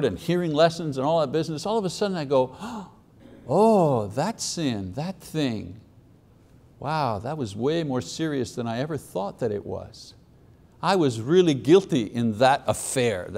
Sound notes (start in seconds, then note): 2.5 gasping